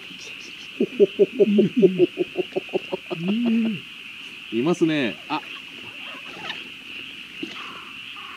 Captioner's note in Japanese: 笑い